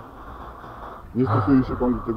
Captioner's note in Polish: wzdycham